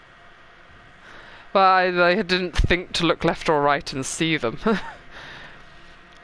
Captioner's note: noise of confusion